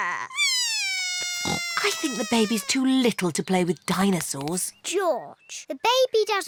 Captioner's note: bawls